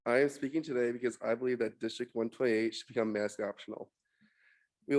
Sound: none

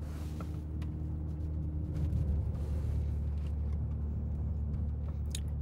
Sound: car engine revving

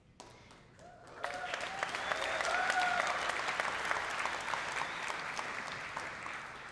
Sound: audience cheering and applauding

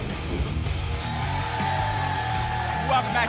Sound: applause and cheering

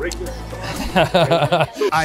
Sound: laughs

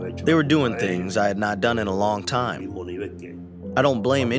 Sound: through translator

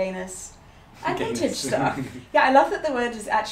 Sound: laughs

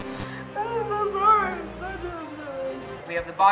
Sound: crying

